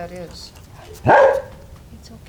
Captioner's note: dog bark